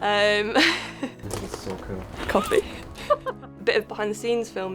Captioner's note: chuckles